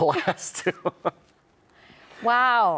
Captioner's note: chuckle